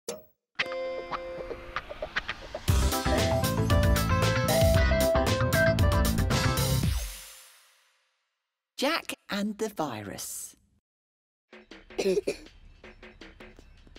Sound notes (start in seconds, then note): 11.9 video game sounds... Jack coughs